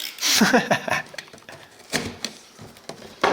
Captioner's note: laughing